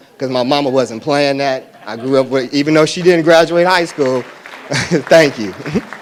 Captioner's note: audience applause